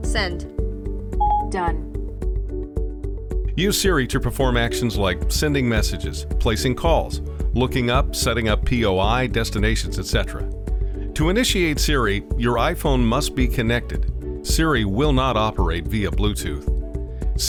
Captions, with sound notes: - Send. - Done. - [Voiceover] Use Siri to perform actions like sending messages, placing calls, looking up, setting up P.O.I, Destinations, etc. To initiate Siri, your iPhone must be connected. Siri will not operate via Bluetooth.